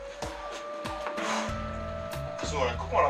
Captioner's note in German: Schnaufen